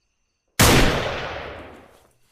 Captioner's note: gunshot